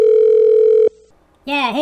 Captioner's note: phone ringing